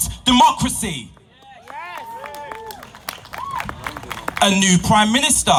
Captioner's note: YES and applause from crowd